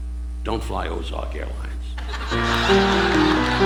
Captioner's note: audience laughing